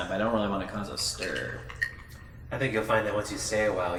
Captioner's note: none